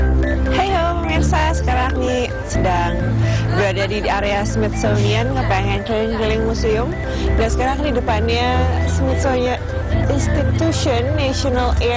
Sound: non-english speech

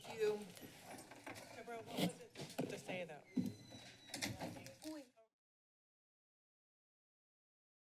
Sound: background conversations

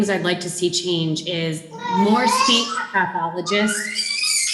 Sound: child babbling; child shrieking

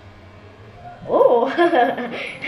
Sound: plane buzzing

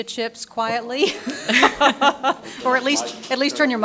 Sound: audience laughing

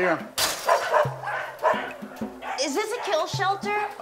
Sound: barking

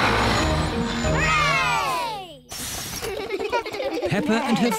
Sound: all cheer

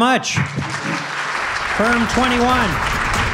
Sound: applause

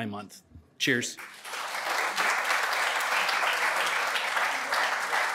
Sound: applause

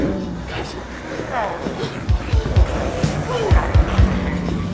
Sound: growling

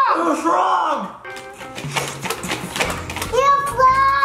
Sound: everyone blowing

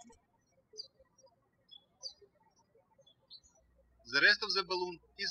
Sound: birds chirping

